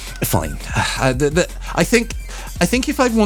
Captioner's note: sigh